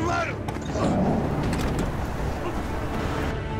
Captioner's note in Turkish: Kapı Açılıyor